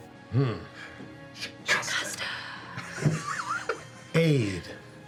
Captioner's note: whisper